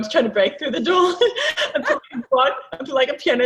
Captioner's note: laughing